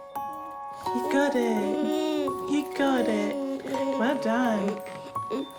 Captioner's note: giggles